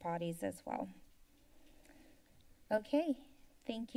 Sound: silence

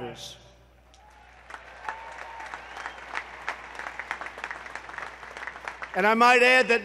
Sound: applause

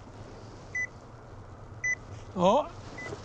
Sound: beeps

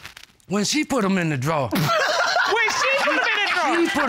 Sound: laughs

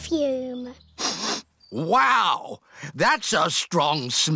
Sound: sniffs

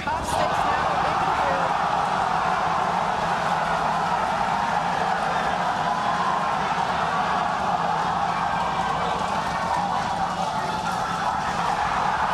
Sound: cheers

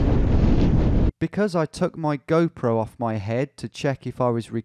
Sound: voiceover

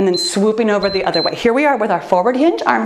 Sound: timer beeps

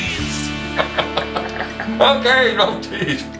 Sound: laughing

